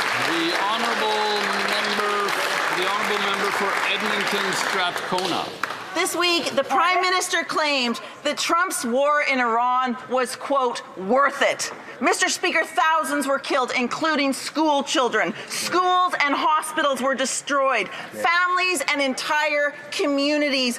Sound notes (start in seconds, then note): 0.0 some Applause